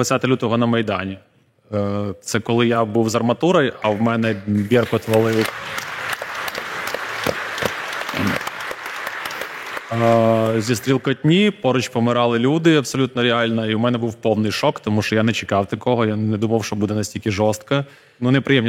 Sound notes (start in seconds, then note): 6.1 applause